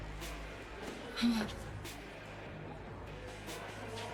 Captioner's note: gasps